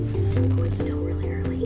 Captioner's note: phone Ringing